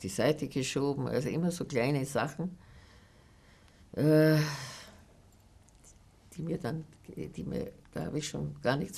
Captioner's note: sighing